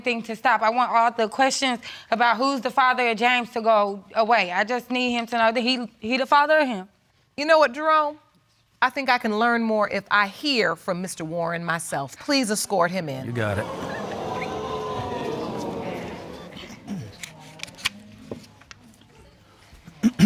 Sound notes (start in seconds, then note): 13.3 audience exclaiming